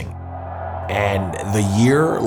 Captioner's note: crowd cheers